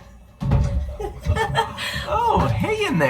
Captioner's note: laughter